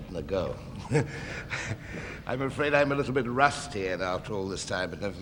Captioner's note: chuckles